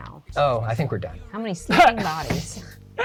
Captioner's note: laughs; pat